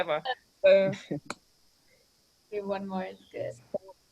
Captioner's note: panelist laughs